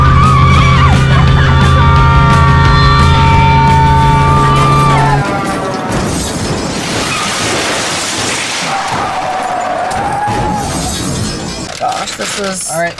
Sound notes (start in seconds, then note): 1.6 screaming; 5.2 crashing